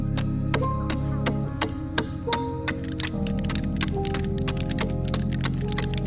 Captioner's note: pensive music continues; tool banging continues